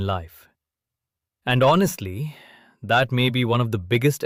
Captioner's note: sighs